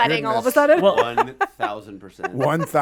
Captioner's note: laughs